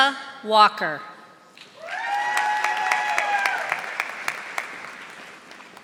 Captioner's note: audience applauding